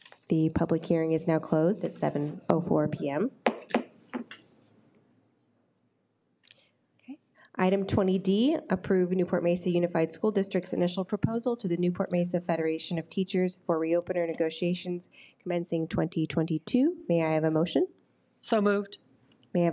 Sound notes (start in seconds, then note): 3.4 gavel bangs